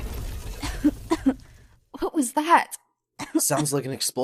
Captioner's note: coughs